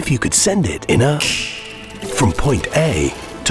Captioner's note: finger snapping